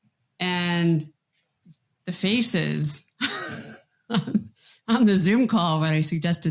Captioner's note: chuckles